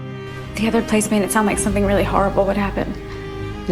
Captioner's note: voiceover